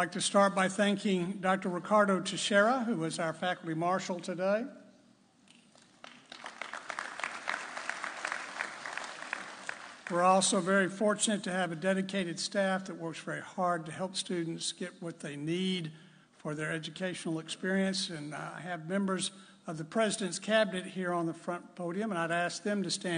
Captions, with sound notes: I'd like to start by thanking Dr. Ricardo Teixeira who is our faculty marshal today. (audience applauding) We're also very fortunate to have a dedicated staff that works very hard to help students get what they need for their educational experience. And I have members of the President's cabinet here on the front podium and I'd ask them